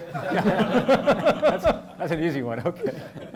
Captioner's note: audience laughing